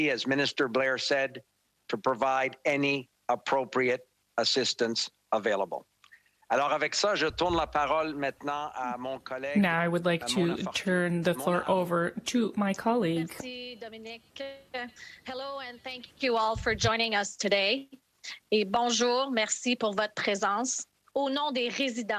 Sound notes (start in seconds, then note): 13.2 speaking French